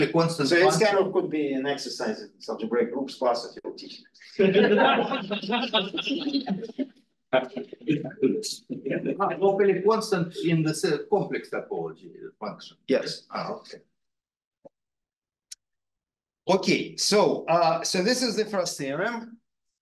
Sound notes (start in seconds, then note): 4.3 students laughing; 7.3 audio distorting